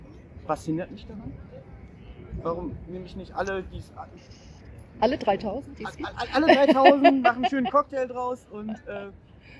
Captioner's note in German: lacht